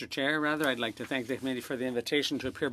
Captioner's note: speaking French